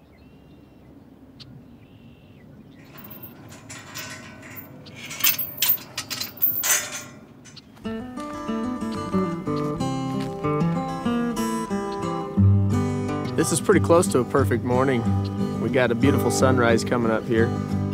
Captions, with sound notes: (birds chirping) (chain clanging) (uplifting guitar music) - This is pretty close to a perfect morning. We got a beautiful sunrise coming up here.